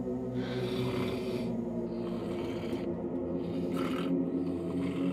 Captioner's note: Harry snoring